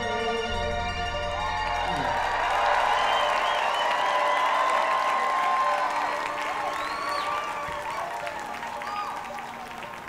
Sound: audience cheering

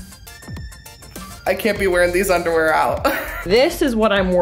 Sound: laughs

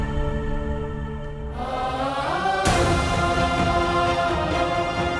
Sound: emotional vocalising

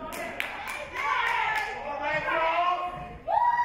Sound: audience cheers

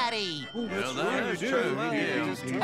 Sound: chatting

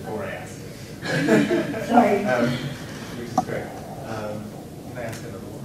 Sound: laughs

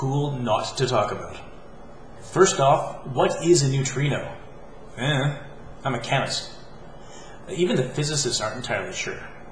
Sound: "i dunno" noise

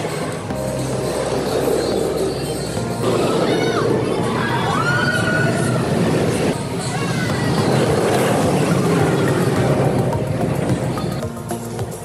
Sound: music and Screaming

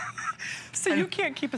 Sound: laughter

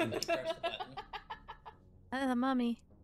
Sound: laughing

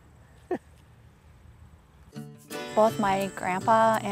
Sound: chuckles

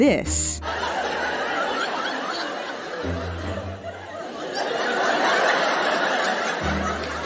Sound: audience laughter

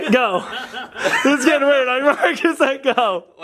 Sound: laughing

